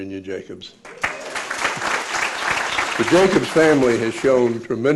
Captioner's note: applause